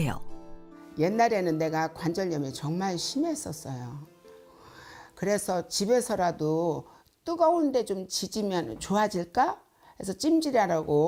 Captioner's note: voiceover